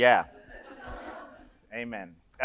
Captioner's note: audience laughs